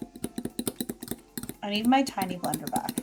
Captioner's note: fork scraping